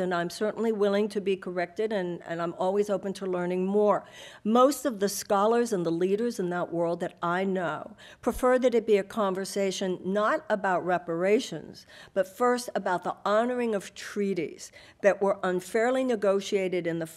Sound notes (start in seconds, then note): none